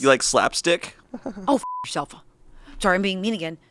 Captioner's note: beep